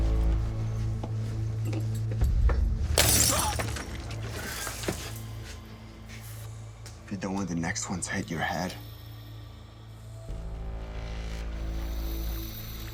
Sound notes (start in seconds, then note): 2.9 glass crunching